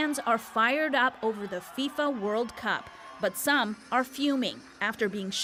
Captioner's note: cheers and applause